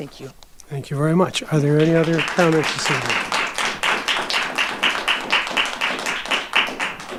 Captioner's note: audience applauding